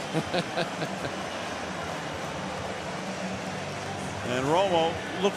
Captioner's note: laughs